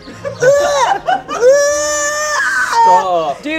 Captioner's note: screaming